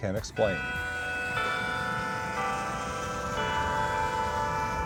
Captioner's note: clock tower chiming